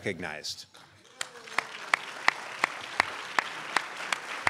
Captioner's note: crowd applauds